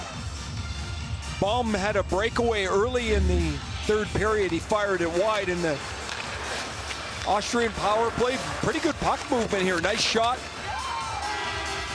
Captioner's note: cheering and Applause